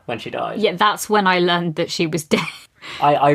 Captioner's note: laughing